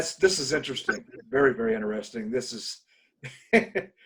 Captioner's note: laughs